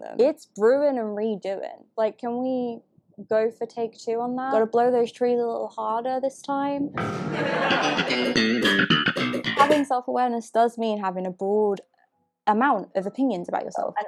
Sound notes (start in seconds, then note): 7.0 audience laughs